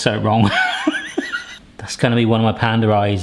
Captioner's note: laughing